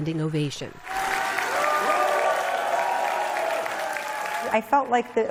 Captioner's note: cheering